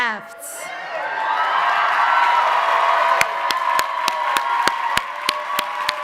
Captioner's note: audience cheering and applauding